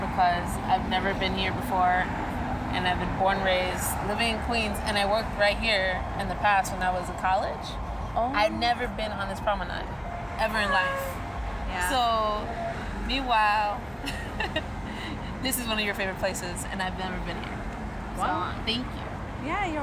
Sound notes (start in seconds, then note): 14.0 Ríe; 14.0 laughs